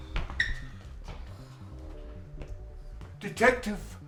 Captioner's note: shoes squeaking; soft whimsical music